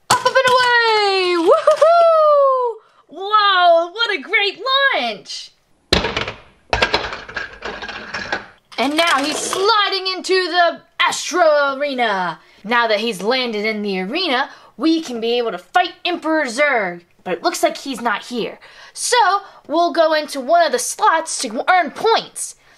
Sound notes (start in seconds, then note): 5.4 toy rattles down slide